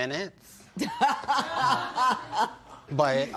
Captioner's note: laughter